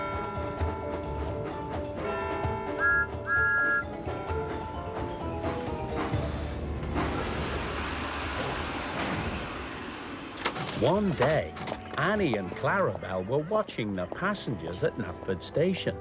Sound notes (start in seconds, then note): 2.7 whistle toots